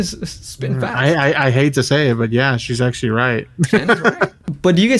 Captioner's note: laughs